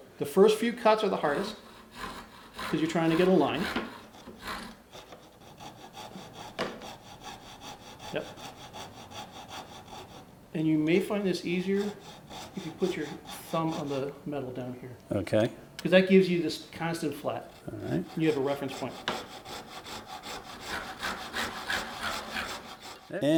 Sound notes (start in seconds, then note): 5.4 saw cutting; 19.8 saws cutting